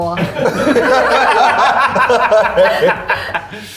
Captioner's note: all laughing